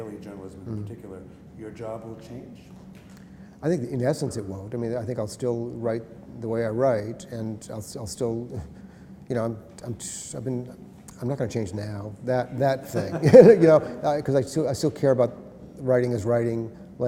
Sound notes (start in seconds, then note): 12.8 laughter